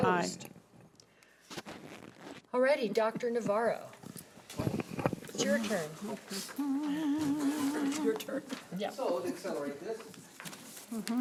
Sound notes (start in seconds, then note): 6.5 humming